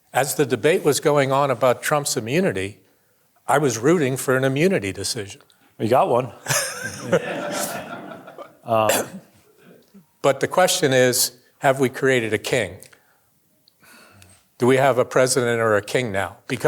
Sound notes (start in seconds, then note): 6.4 chuckling; 6.5 audience laughing